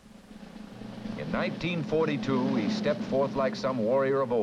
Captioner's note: voiceover